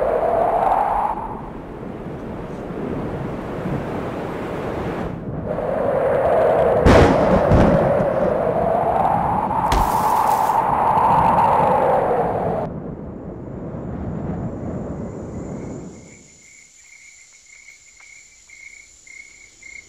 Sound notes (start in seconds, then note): 2.3 wind blowing